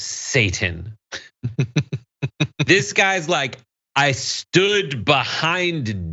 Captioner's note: laugh